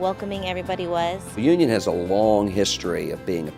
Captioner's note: voiceover